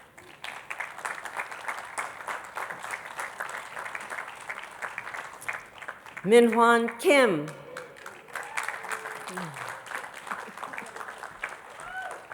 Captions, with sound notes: (attendees clapping) Minhwan Kim. (attendees clapping)